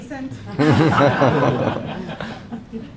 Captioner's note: laughing